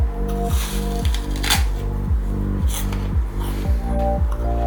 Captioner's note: crunching